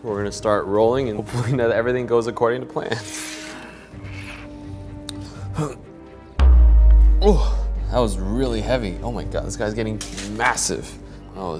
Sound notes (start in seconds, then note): 5.5 grunting